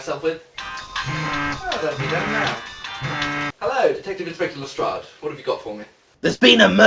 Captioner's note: phone rings